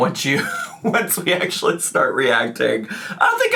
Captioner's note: laughs